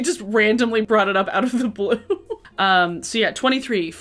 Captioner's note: laughs